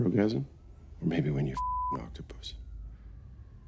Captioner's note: beep